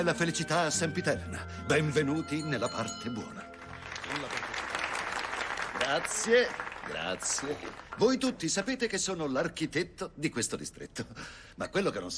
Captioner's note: applause